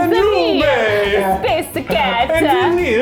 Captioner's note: imitating Italian accent